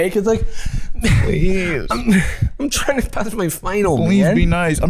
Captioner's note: both whining